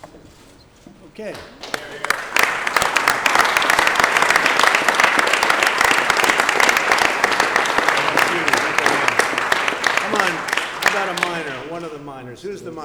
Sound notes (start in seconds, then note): 3.0 applause